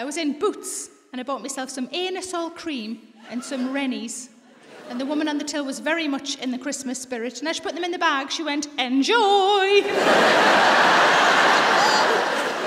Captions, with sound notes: I was in Boots and I bought myself some Anusol cream and some Rennies. And the woman on the till was very much in the Christmas spirit. And as she put them in the bag, she went... (SING-SONG VOICE) "Enjoy!" (LAUGHTER)